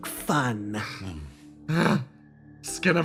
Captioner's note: Yaiyo Grunt